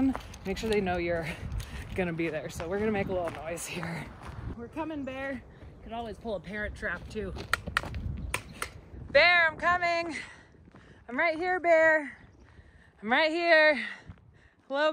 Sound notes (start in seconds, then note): 8.3 taps sticks